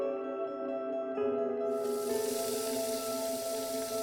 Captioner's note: water flowing